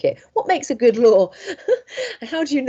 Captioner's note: laughs